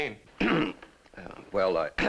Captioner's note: clears throat